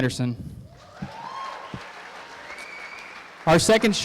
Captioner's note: applause